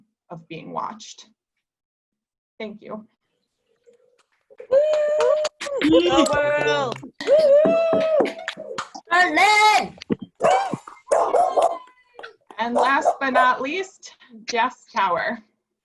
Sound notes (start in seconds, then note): 4.6 cheers and clapping